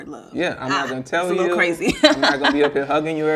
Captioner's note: laughing